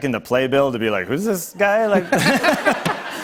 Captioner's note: laughter